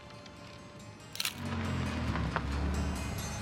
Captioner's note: gentle music; camera shutter clicking; car engine revving